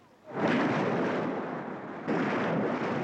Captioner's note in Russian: шум моря